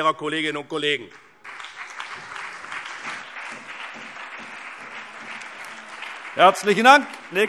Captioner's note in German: Beifall BÜNDNIS 90/DIE GRÜNEN, CDU und vereinzelt DIE LINKE